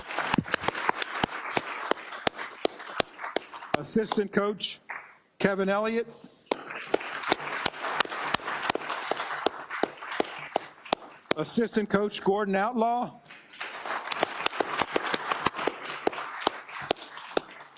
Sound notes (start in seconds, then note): 9.4 applause